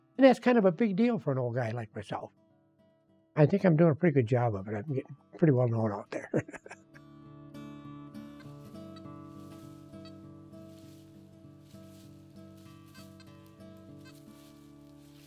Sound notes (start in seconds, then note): 6.0 laughs; 8.3 soft music